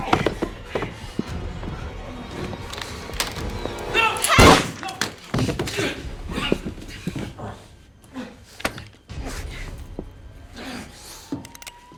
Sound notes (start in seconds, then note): 5.6 moaning and groaning; 10.5 police sirens wailing